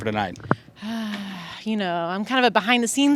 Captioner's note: sighs